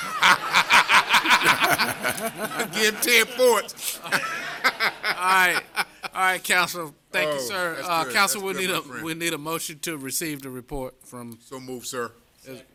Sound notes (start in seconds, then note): 5.6 laughter